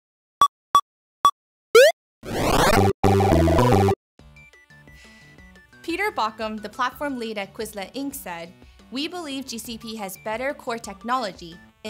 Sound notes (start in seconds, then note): 0.0 beeps; 2.2 game sound effects